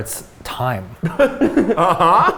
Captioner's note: laughing